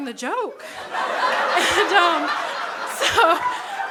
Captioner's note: crowd laughs